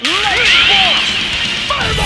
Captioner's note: cool anime noises